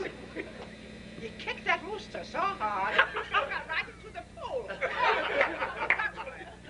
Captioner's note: laughter